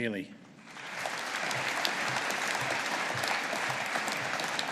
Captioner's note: audience applauding